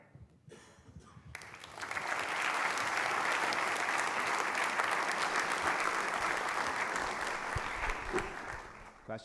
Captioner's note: applause